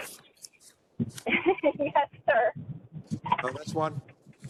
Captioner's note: laugh